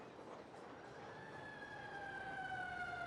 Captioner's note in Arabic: صافرة الإنذار تدوي